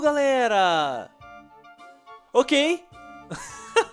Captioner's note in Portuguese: risos